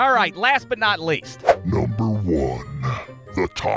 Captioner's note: the most evilish-devilish voice